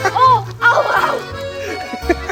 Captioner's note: laughter